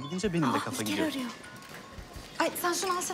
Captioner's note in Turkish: Telefon çalar